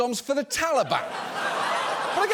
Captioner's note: audience laughing